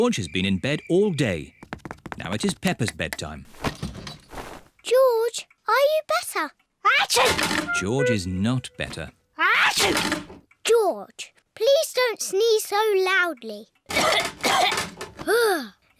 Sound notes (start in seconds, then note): 7.1 sneezes; 9.7 sneezes; 13.9 coughs